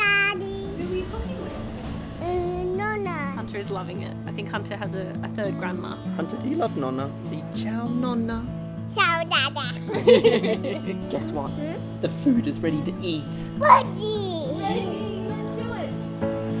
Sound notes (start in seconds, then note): 9.8 laugh